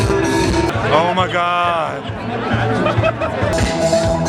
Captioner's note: laughs; upbeat music